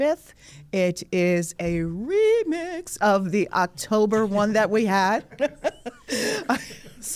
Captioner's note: laughs